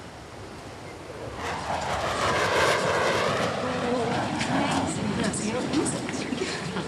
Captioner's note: roar of jet engine obscures speech